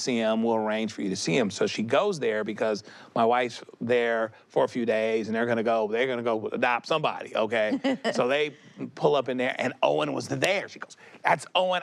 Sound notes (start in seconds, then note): 7.7 chuckles